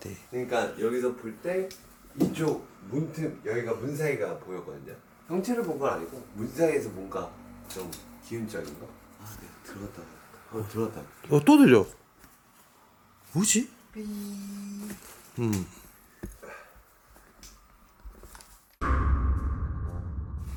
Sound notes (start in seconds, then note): 16.0 moan